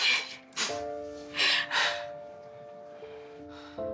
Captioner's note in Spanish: Risas y suspiros